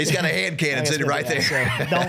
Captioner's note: laughing